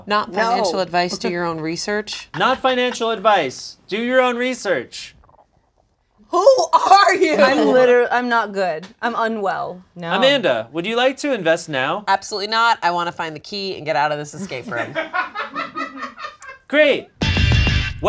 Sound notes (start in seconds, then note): 14.7 loud laughter from offscreen